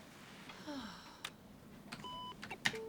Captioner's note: sighs